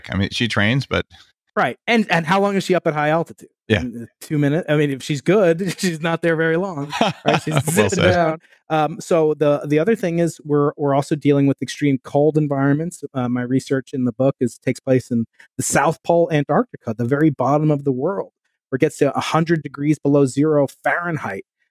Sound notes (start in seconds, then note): 6.6 laughing